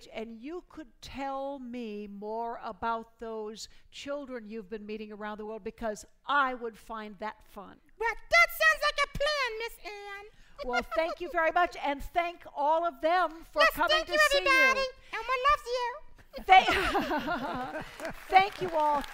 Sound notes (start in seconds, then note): 16.7 applause